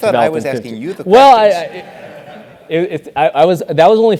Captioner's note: laugh